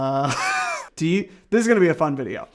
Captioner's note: chuckling